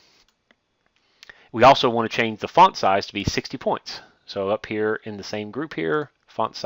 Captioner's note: click